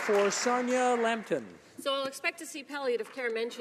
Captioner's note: some Applause